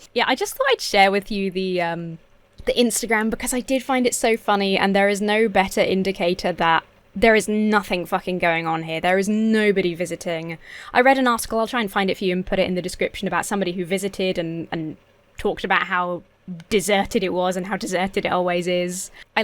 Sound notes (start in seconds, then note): none